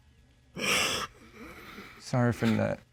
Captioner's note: continues sobbing